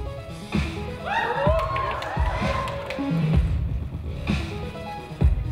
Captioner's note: upbeat electronic music; audience cheers